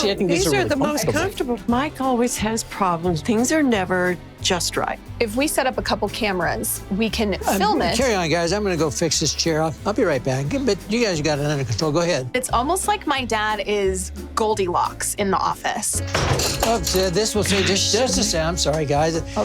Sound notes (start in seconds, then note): 16.0 chair thumps